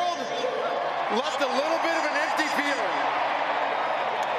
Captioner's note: applause